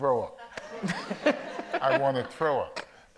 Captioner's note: audience laughs